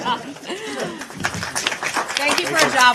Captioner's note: reporters applaud